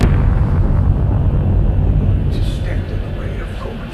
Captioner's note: door booms